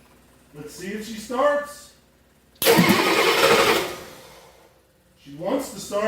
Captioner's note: engine cranking